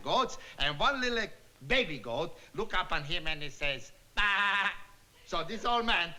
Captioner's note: bleats